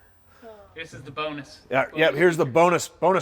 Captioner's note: sighs